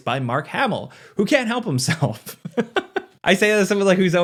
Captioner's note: laughs